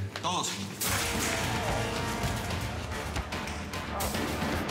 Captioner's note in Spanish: golpes